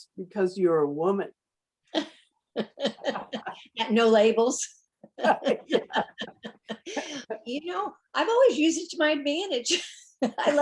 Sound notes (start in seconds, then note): 2.5 laugh